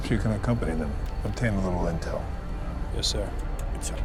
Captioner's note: none